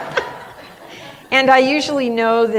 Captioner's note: laughter